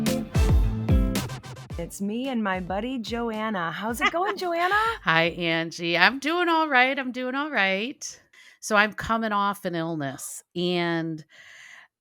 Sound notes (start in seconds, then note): 3.9 laughing